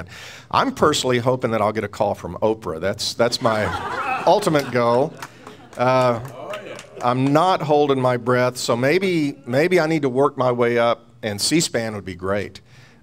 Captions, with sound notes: I'm personally hoping that I'll get a call from Oprah. That's my ultimate goal. (laughing) (clapping) - Aw yeah. - I'm not holding my breath, so maybe I need to work my way up and C-SPAN would be great.